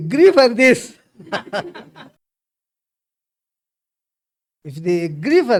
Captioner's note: laughs